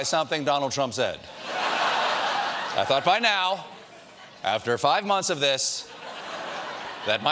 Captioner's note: laughter